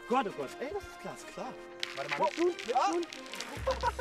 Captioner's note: the ice crunches